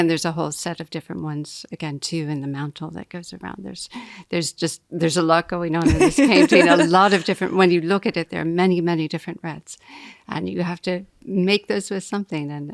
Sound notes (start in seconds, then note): 5.8 laughing